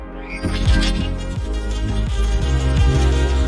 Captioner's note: doors rumbling